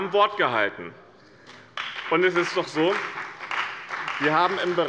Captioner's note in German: Beifall bei dem BÜNDNIS 90/DIE GRÜNEN und der CDU